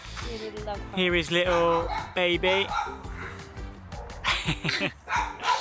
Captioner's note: laughs